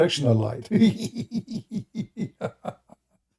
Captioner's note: Ketawa